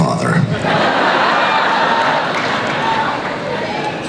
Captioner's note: crowd laughs